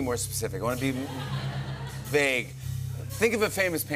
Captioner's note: laughter